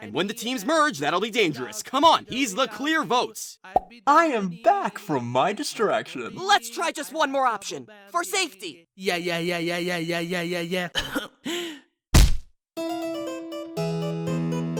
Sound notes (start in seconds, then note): 10.9 coughs